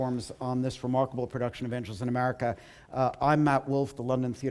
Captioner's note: none